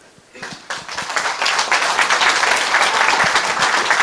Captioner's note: applause